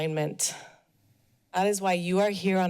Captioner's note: pause